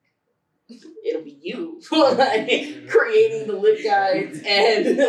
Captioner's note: laughter